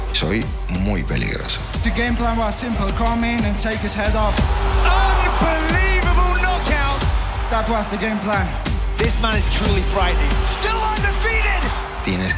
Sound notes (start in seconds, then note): 1.0 Topuria speaking in Spanish; 9.0 strikes thwacking pads